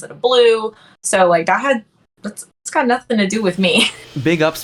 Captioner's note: laughs